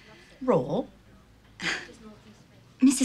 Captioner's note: chuckles